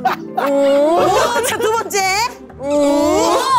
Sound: laughing

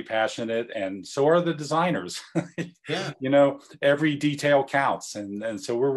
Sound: laugh

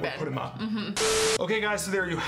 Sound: static

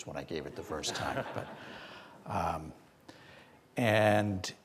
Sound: audiences laughing

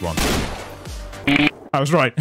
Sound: bomb arming sound

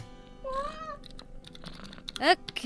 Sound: cat meows

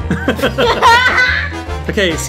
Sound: both laughing

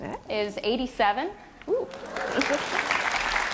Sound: applause

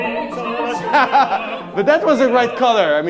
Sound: laughing

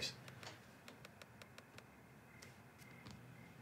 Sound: clicking

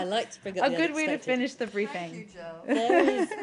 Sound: laughter

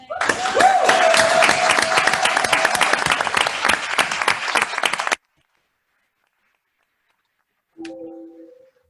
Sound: applause

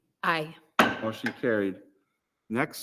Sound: gavel raps

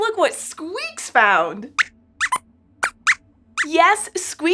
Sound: squeaks squeaks

